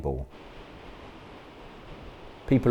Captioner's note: beach sounds